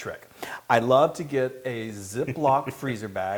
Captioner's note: laugh